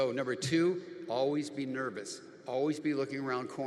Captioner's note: none